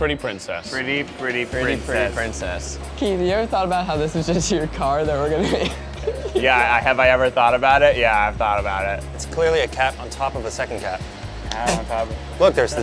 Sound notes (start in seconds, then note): 5.3 giggles